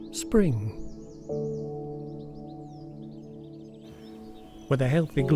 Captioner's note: birds chirping